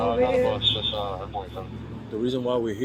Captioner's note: radio chatter